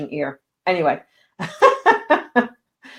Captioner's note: laughing